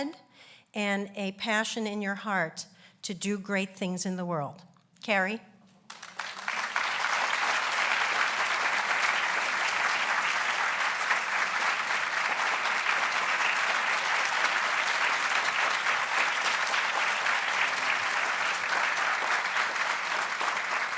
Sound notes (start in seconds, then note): 11.3 applauds